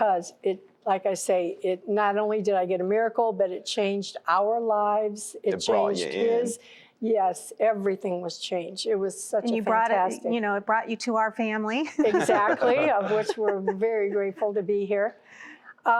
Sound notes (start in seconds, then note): 11.8 laughter